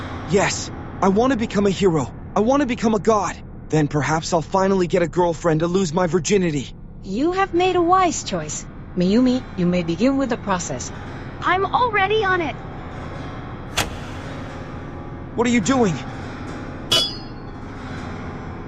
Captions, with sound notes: Yes. I want to become a hero. I want to become a god. Then perhaps I'll finally get a girlfriend a lose my virginity. You have made a wise choice. Mayumi, you may begin with the process. I'm already on it. (click) What are you doing? (clink)